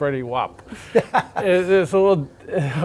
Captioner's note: narrator laughing